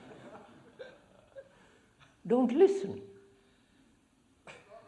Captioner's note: laughter